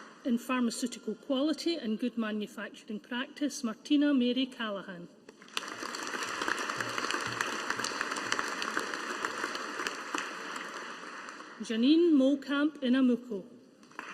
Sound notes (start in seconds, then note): 5.4 audience applauding